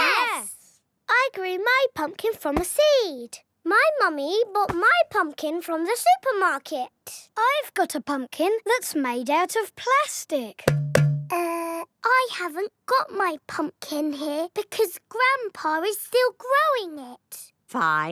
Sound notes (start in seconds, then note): 10.6 hollow clunking